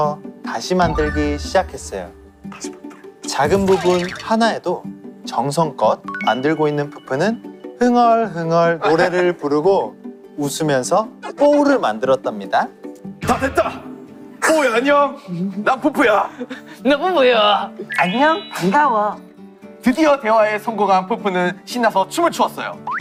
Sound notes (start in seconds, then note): 13.0 Peupeu's manly voice; 17.9 Ppowoo with sweet voice